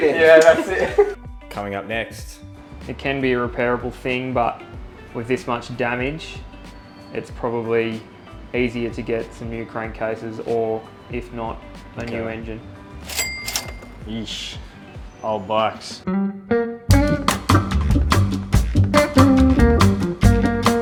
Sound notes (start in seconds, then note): 13.0 cash register dings; 16.0 chill music